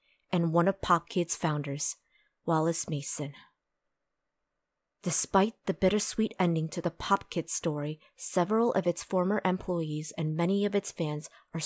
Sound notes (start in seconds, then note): none